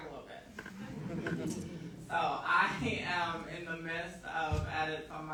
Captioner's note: audience laughing